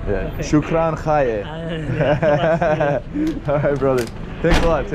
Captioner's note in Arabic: كلام بلغة أجنبية